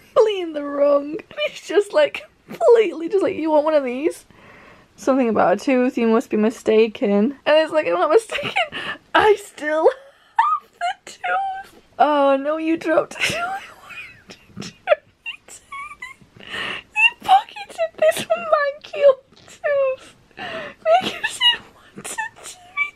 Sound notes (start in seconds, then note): 10.2 wheezing; 16.7 laughing